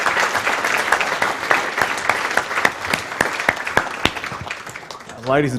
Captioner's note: applause